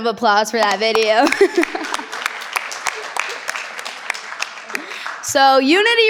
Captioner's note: participants clap; participant laughs